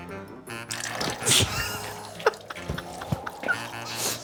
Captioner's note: laughing